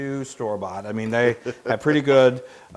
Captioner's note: laugh